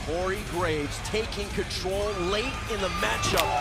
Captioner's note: crowd cheering